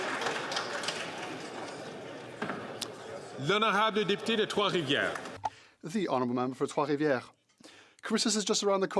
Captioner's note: some Applause